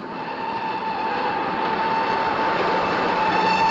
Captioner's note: train whistle